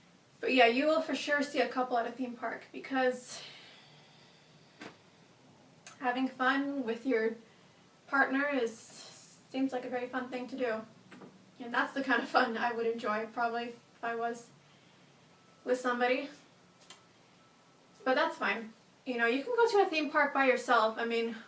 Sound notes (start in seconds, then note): 3.4 long sigh